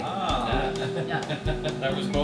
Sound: laughs

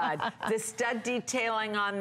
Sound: laughter

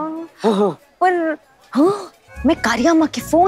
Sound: gasps

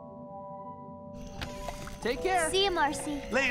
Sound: door creaks

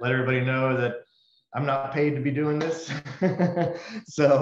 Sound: laughs

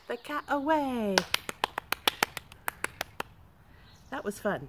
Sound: continuous clapping

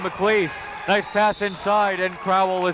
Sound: whistle

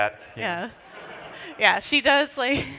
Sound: laughter

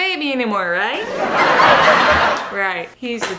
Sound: audience laughing

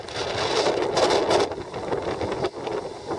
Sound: none

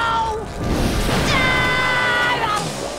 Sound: screaming

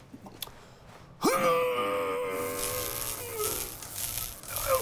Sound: Robin grunts, lights fizz

